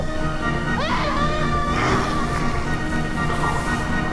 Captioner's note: screaming; dramatic music